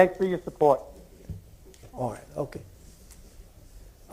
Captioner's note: off microphone